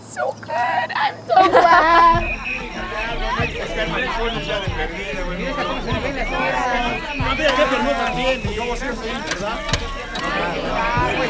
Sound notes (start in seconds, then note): 2.3 people chatting